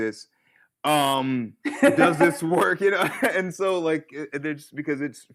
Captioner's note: laughter